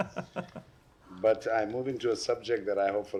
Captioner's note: laughter